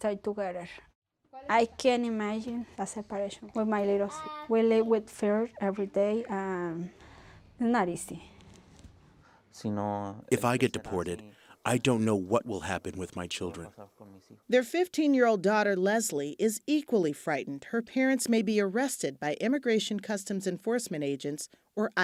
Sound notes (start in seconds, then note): 9.8 through translator